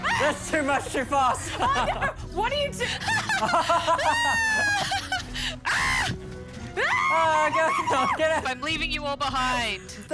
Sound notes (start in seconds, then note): 0.0 screams; 2.5 laughs; 4.3 screams